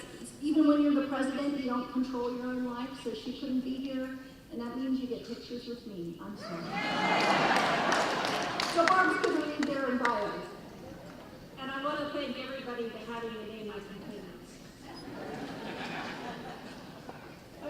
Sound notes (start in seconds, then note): 6.5 laughing; 6.5 cheering; 14.9 laughing